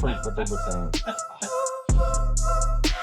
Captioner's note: laughing